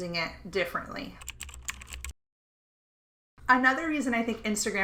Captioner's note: keystrokes clacking